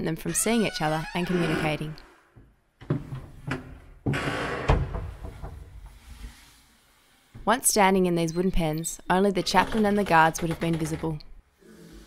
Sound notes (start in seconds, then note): 4.3 doors echo